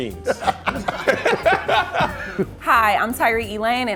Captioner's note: all laughing